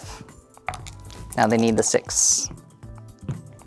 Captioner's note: dice rattling; dice rolling; cup thuds